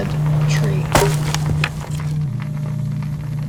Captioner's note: sound of wood being pulled from itself and breaking